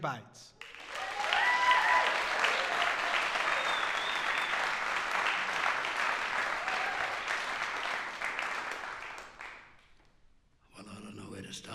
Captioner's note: applause